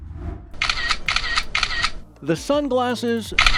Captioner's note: transition whooshes; camera shutter clicks